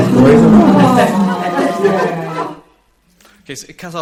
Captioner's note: laughter